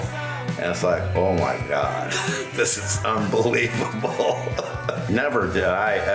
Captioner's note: laughs